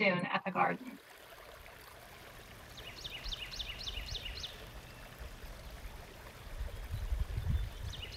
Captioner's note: birds chirping and water running